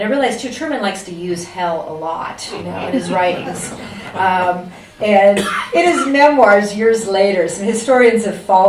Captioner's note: laughter